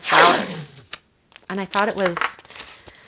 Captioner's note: tape ripping